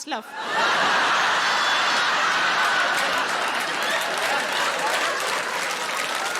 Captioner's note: audience laughing and applauding